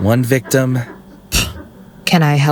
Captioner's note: scoff